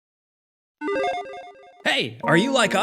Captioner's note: logo beeps